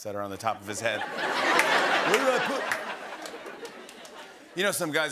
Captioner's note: laughter